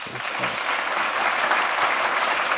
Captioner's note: applause